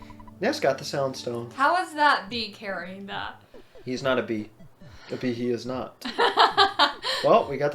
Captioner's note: laughs